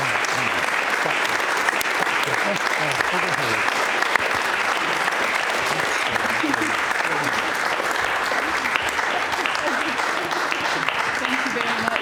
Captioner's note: applause